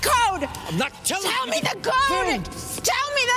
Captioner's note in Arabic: صراخ